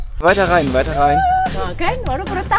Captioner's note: speaking German